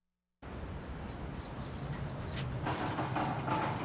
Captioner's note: birds chirping